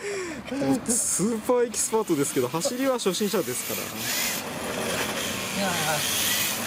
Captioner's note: laughs